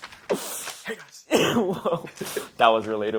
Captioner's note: laughs; paper rustles